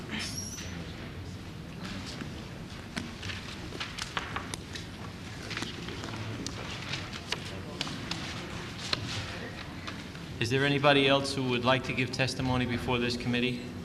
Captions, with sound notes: (whispers) is there anybody else who would like to give testimony before this committee